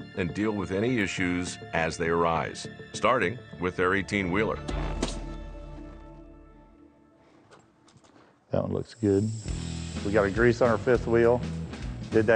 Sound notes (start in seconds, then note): 4.7 tire pressure pops